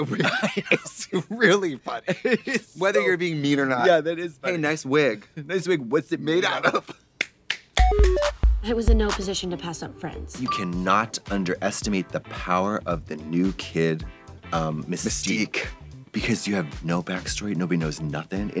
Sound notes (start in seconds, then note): 6.9 upbeat music; 7.2 Trixie claps; 13.8 blonde women in unison